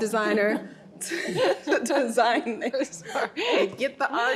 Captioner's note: laughing